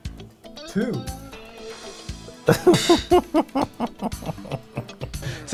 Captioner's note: laughing